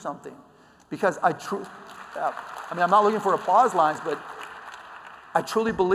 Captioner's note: applause